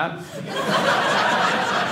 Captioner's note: audience laughing